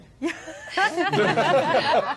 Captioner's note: all laughing